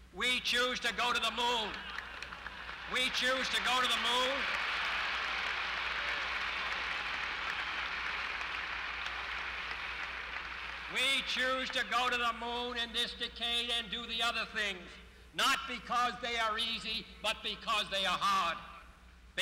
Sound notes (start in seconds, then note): 4.9 applause